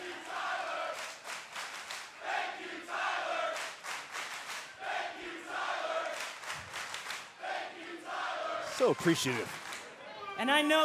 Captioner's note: cheers and applause; fans chanting